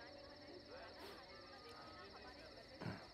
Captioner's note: Sniffs